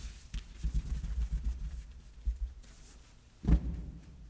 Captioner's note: light banging